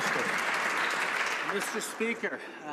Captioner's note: some Applause